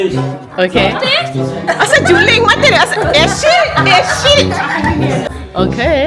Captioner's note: speaking German